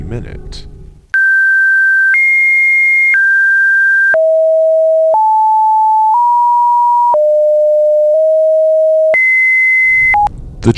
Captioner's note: beep